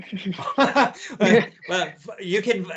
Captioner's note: laughter